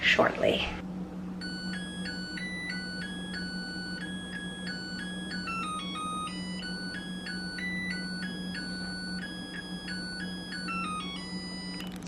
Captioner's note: rice cooker chiming a happy tune